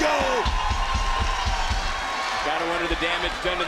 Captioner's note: audience cheers